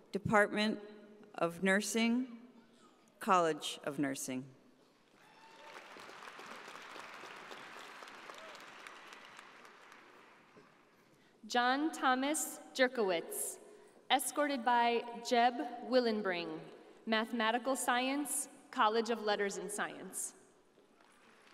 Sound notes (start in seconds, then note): 6.9 audience applauding